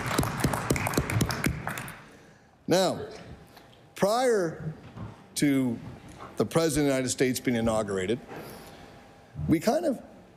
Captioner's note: applause